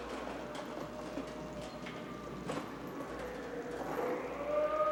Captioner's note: ghostly voice moaning